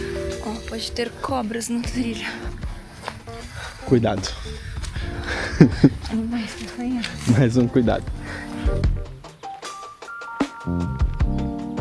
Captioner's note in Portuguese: risadas